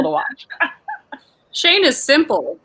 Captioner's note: laughs